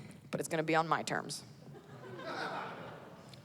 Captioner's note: laughter